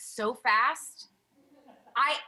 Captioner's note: laughter